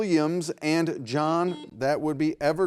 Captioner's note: beep